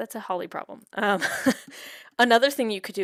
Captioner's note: chuckles